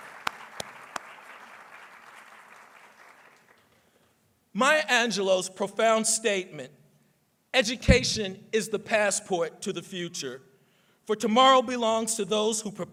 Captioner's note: applause